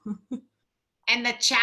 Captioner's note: laugh